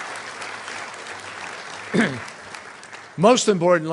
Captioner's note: applause